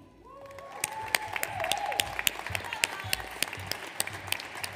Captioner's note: audience applauds